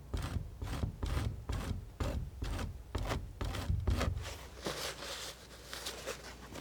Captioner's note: scratching